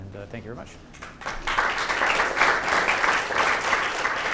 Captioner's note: applause